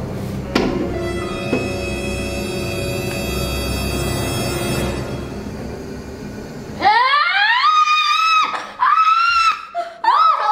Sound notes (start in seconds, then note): 0.0 suspenseful music; 6.8 screaming